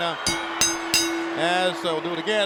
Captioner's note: bell ringing